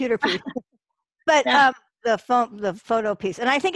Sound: laughter

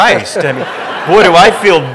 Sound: audience laughing

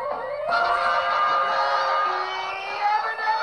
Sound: horn

